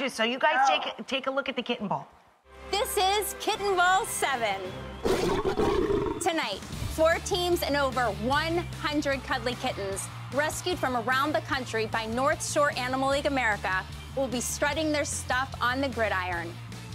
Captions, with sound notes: So you guys take a look at the Kitten Bowl. This is Kitten Bowl Seven. (cat roars) Tonight, four teams and over 100 cuddly kittens rescued from around the country by North Shore Animal League America will be strutting their stuff on the gridiron.